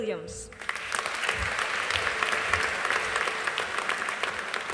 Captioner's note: audience applauding